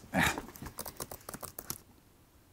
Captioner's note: types into keyboard